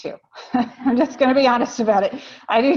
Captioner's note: laughs